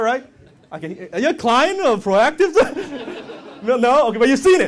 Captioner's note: laughs